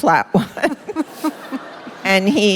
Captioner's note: laughter